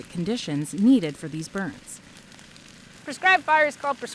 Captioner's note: flames crackling